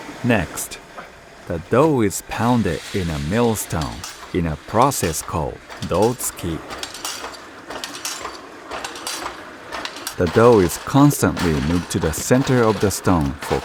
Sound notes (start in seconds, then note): 6.4 speaking in foreign language